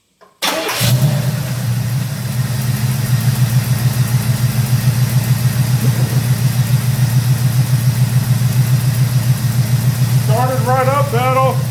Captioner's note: engine starts & idles; engine idling